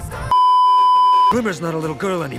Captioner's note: beeeeeep